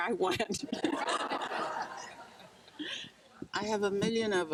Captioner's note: crowd laughing